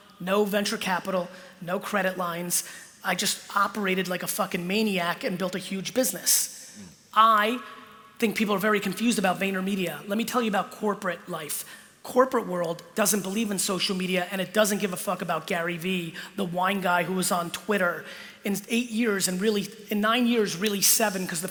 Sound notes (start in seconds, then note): none